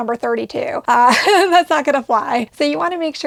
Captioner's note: laughs